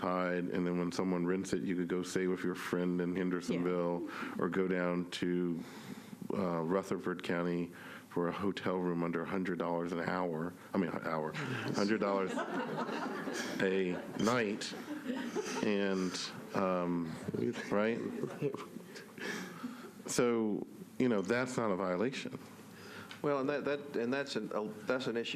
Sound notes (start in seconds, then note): 15.7 laughter